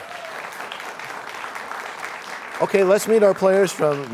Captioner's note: cheers and applause